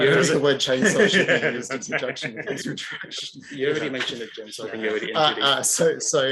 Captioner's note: laughing